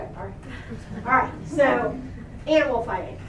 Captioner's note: laughter